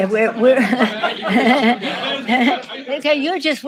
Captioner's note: reporters laughing; Nancy laughing